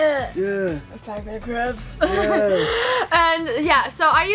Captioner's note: laughs